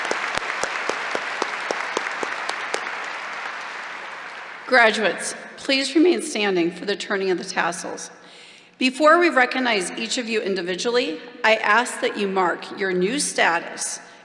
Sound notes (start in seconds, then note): 7.0 applause